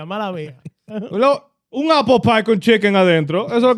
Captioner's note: speaking In Foreign Language